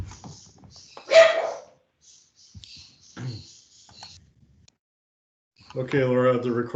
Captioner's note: birds chirping; dog barking